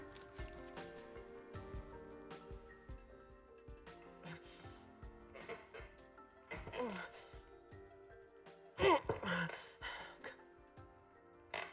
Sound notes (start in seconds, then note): 6.6 grunting